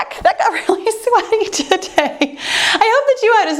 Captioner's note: chuckles